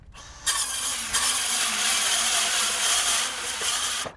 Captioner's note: saw slicing